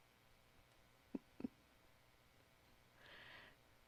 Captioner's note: chuckles